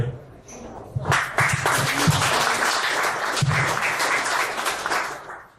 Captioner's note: applause